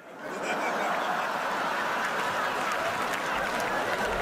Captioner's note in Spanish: risas